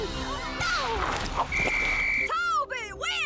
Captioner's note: blows whistle